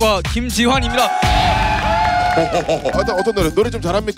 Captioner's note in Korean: 열광